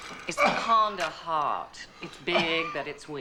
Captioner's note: coughing